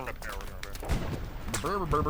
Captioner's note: gunshots